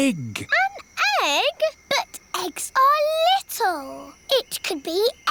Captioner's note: none